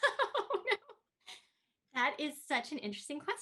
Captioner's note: Tui laughs